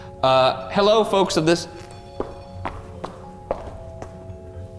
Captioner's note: REM-POD beeps